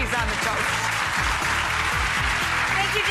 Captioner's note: audience applauds; upbeat music